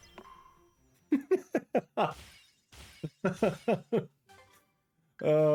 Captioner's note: laughs